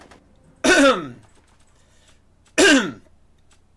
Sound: cough; cough

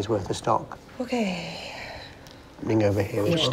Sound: sighs

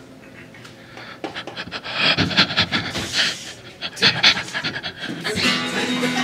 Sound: distressed Breathing Noises

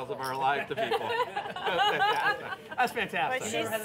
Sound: laughter

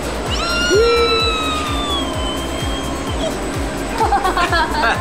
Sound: squealing; laughing

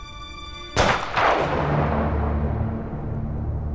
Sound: gun shot

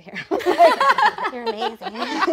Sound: laughing

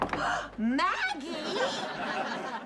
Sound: gasping

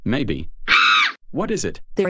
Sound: exclaiming

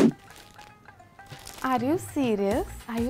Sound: paper crumples

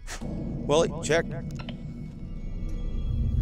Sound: echoing; suspenseful music playing

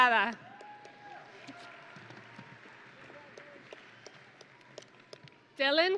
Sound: audience and graduates cheering

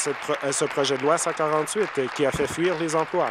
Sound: applause

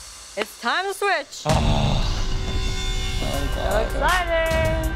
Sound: groan

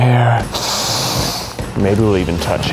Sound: sniffs

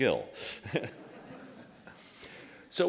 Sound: laughter

